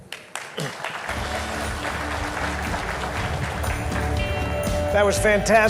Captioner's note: audience claps; upbeat music